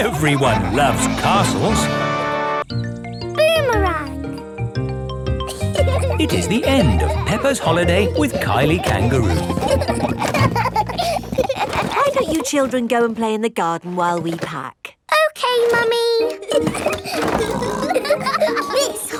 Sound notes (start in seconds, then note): 10.3 children laughing; 16.3 laughing and snorting